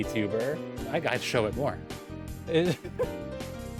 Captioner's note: vtuber laughing